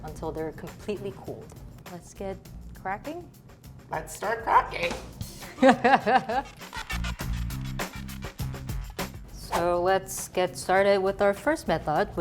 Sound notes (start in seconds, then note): 5.5 drums sound; 5.5 chuckles